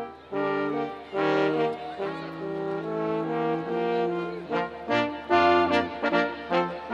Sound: students cheering

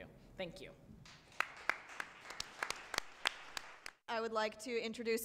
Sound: applause

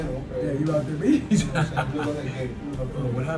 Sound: laugh

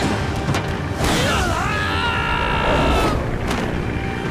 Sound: screaming

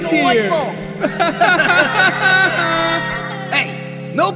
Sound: laughter

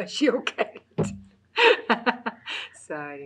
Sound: laughs

